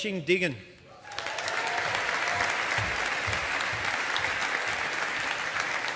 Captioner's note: audience applauding